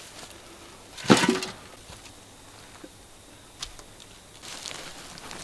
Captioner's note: soil falls into wheelbarrow